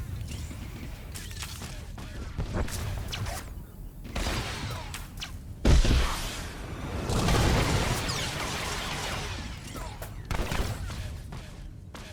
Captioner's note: gun firing